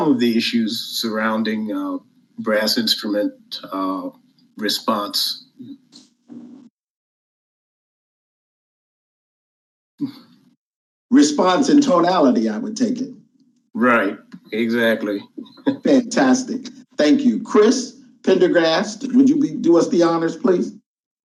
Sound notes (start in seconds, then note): 14.4 chuckles